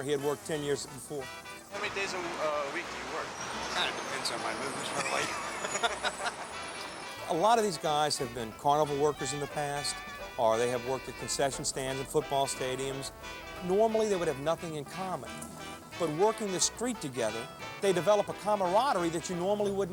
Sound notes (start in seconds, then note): 4.6 laughs